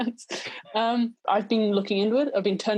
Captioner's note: laughing